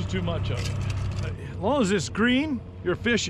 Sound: boat engine idling

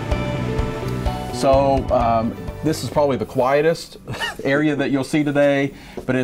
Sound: chuckles

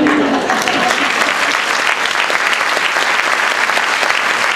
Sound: applause; laughter

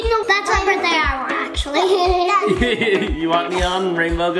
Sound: laughs

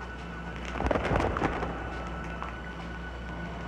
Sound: wings flap

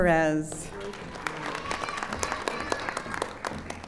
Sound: audience applauding

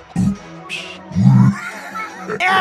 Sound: laughter

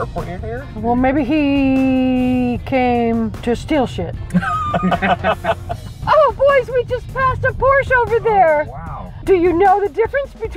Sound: giggles

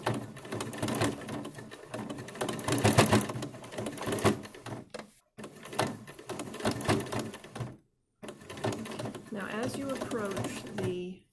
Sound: machine noises

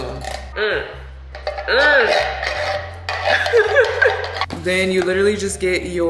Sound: laughing

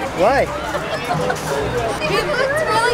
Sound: laughing

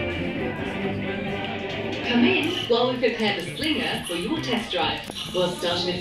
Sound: in French, then English

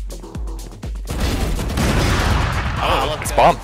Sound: guns firing

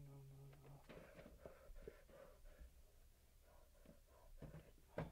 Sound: breathing loudly

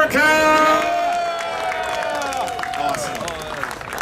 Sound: audience cheering

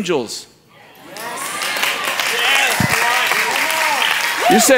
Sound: applause

